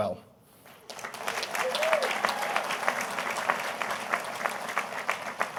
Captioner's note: audience applauding